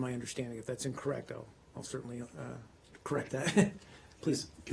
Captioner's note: laughter